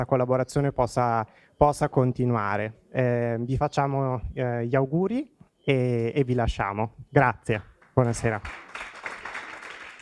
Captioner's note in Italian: Applauso